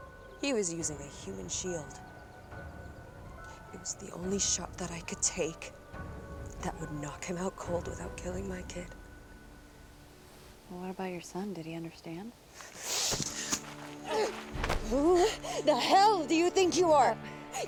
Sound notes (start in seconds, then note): 13.1 Abigail grunts; 13.2 tense music